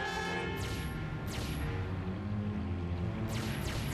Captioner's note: laser fires